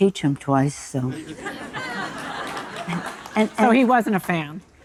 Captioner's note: audience laughing